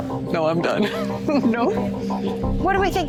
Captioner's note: laughs